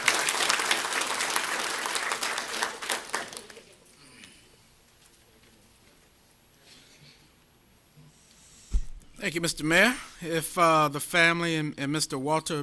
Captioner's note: applause